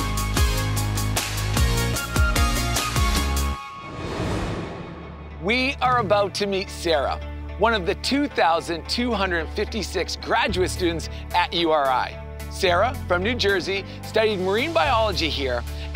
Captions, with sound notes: (air whooshing) We are about to meet Sarah, one of the 2,256 graduate students at URI. Sarah, from New Jersey, studied Marine Biology here